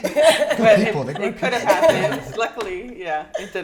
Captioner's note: laughs